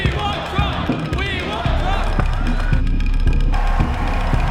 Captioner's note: crowd chanting